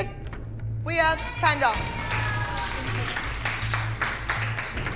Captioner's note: cheering